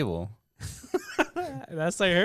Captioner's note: laughs